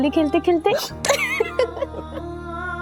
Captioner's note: laughing